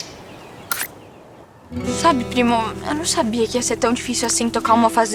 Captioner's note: birds; click